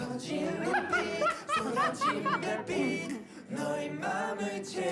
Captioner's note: cracking up